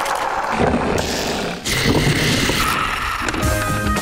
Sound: crashing; wheels whirring

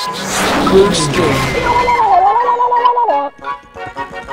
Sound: exclaims

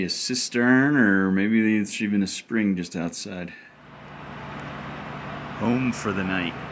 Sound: truck noises

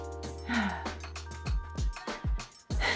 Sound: sighs

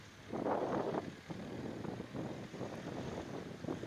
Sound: wind blowing

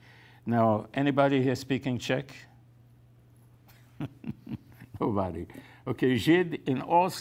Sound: laughs

